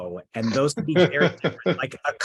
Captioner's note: laughing